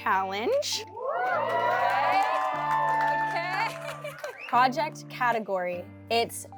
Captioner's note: cheering & Clapping